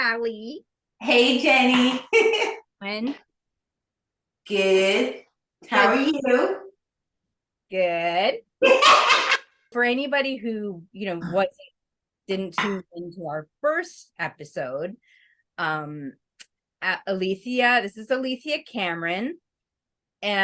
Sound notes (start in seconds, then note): 2.0 giggles; 8.6 giggles